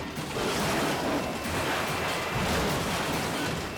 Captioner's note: truck crashing